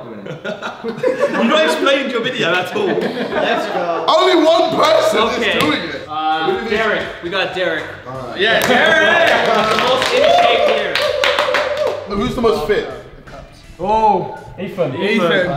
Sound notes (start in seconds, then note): 0.3 laughing; 8.6 cheering